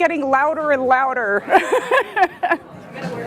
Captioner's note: laughs